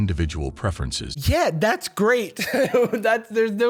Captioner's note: laughs